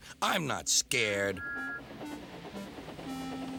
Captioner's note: toots